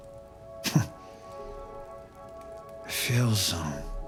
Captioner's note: Bobby chuckles